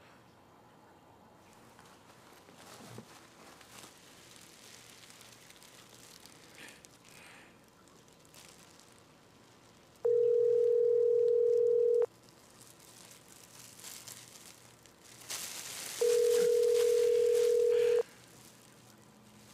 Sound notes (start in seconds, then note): 10.0 ringback tone of phone call